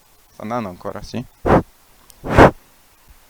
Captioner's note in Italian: soffia nel microfono